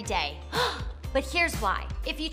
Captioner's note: gasping